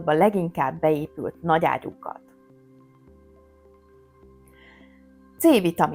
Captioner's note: silence